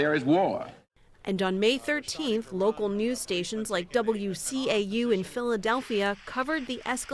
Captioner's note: voice-over